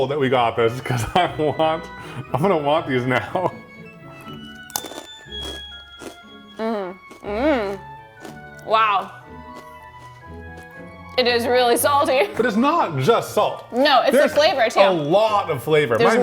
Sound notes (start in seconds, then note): 3.7 whimsical music; 4.3 Takis crunching; 9.4 Takis crunching; 9.4 whimsical music